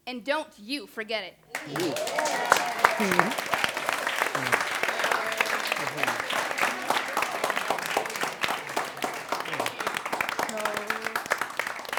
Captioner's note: applause/cheers